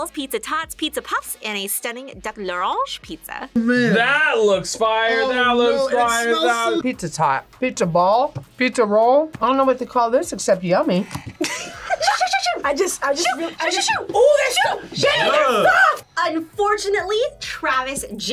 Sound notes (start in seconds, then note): 11.1 laughs